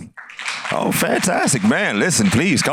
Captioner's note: applause